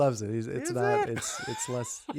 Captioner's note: laughing